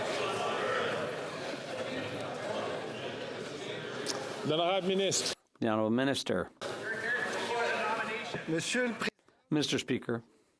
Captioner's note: chatter